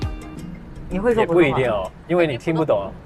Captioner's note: Mandarin